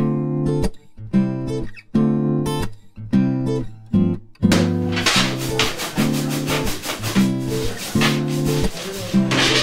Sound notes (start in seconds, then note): 4.5 scratching